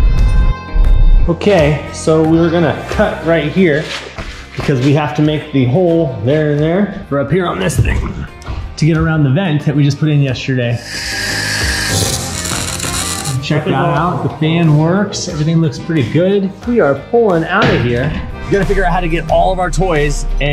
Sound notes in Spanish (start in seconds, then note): 10.7 rechinamiento de metales; 10.8 crujidos de metales